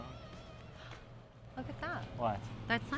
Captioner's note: Julie gasps